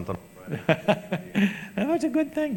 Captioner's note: laughs